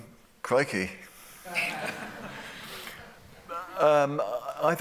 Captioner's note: laughter